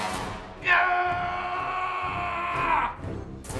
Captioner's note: CJ screaming; suspenseful music